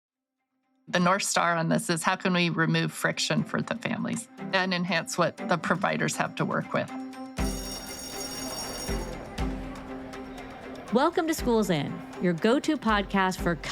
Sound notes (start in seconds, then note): 7.3 bell ringing; 7.3 bright Music